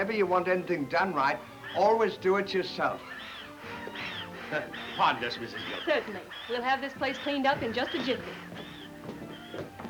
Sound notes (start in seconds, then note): 3.0 Stan wheezing